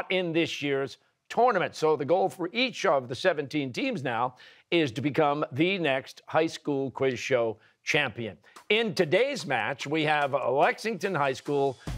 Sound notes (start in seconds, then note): none